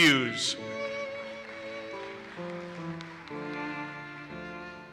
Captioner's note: audience applauses